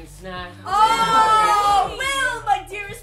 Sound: all cheer

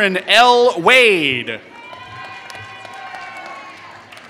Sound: applause

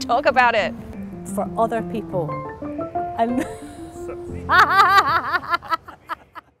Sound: laughs

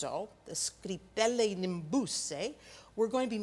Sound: speaking in Italian

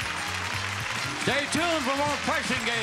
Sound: audience applauding

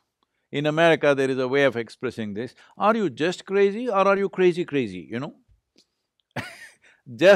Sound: laughs

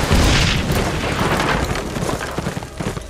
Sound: explosions

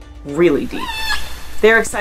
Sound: high-pitched orca vocalization

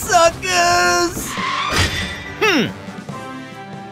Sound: Screech

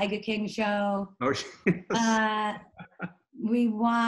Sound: laughs

